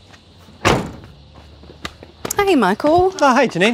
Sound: boot bangs

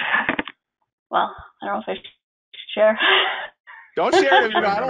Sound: laughs

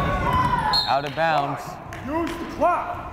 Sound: whistle blows

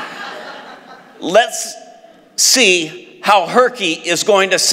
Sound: laughs

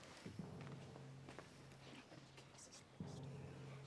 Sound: whispers

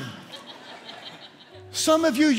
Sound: laughter

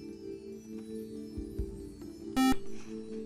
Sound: buzzer

